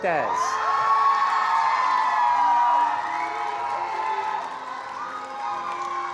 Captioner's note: attendees cheering and applauding